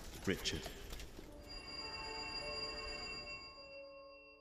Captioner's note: doorbell